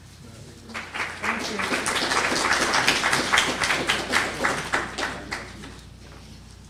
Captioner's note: applause